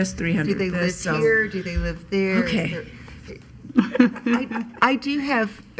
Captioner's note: laughing